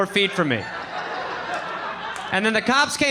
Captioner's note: audience laughing